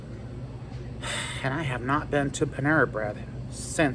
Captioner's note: normal voice